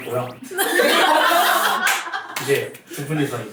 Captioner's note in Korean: 웃음